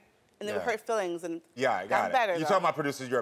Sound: none

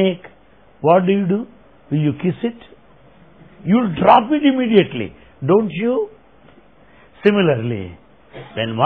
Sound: laughter

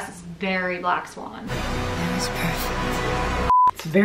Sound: beep

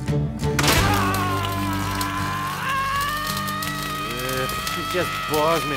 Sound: screaming

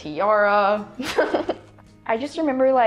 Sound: laughs

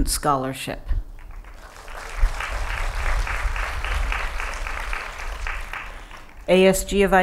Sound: applause

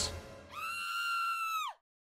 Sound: scream sound effect

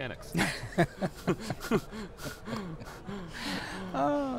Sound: laughs

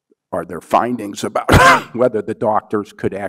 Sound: coughs

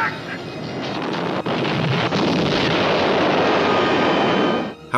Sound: loud explosion

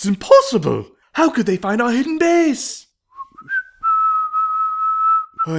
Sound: team is whistleing

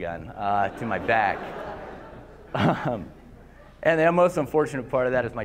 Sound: laughter

